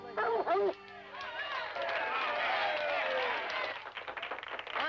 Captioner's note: crowd clapping